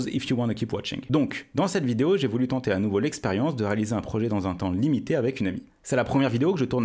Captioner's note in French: En français